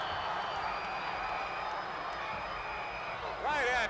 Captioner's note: whistles blowing